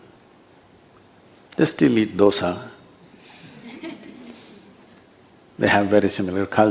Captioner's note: few laugh